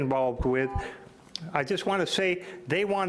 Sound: timer beeps

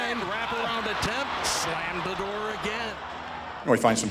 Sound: crowd cheers

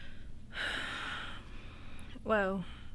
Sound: Leanna sighs

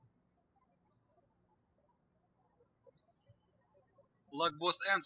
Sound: birds chirping

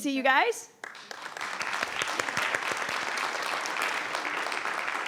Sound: audience applauding

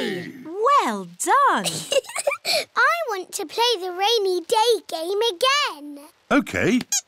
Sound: laughs

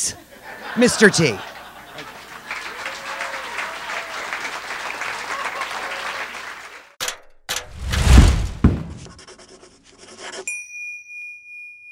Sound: applause

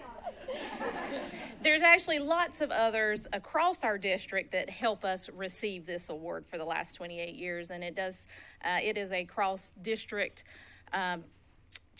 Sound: laughter

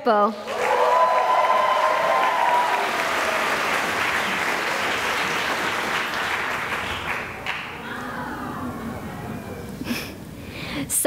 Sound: cheering and applause

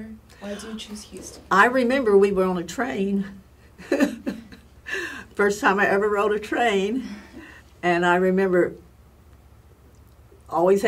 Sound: laugh

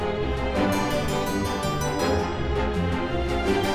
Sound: none

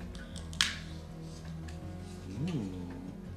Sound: objects hitting

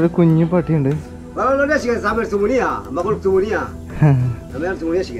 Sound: man speaks in his language

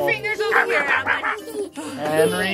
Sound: growls

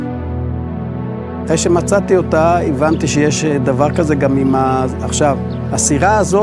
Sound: speaking in foreign language

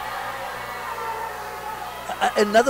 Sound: audience booing

